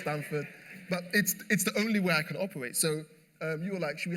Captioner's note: laughter